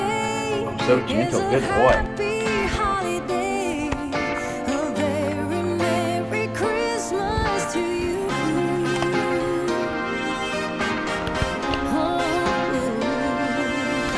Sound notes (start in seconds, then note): 9.0 Flip crunches the treats